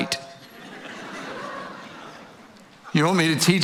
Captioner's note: audience laughing